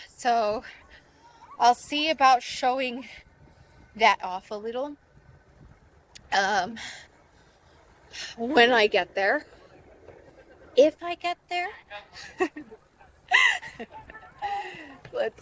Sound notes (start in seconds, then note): 8.1 breaths loudly; 12.1 laughs